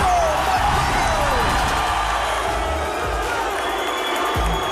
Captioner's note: cheering; rock music